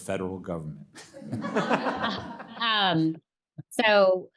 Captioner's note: attendees laughing